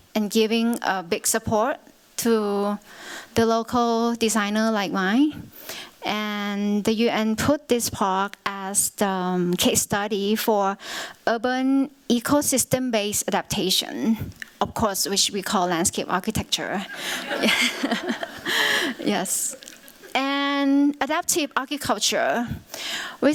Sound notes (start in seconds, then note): 16.8 laughter